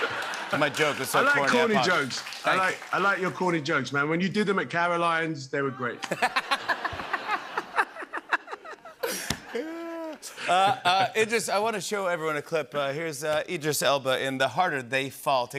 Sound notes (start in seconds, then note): 6.0 laughter